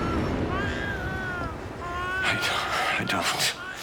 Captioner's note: baby crying